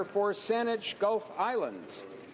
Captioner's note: speaking in french